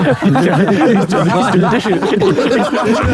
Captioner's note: group laughing